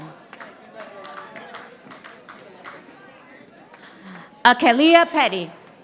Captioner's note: audience applauding